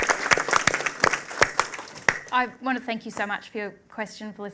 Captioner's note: applause